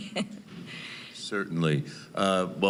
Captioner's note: laughing